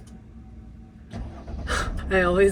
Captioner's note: engine rumbling